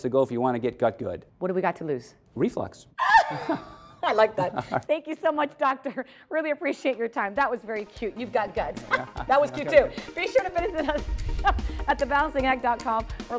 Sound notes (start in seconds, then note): 3.0 laughing